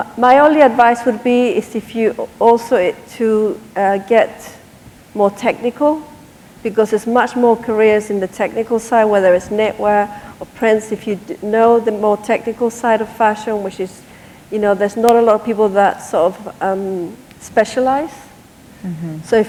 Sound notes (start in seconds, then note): none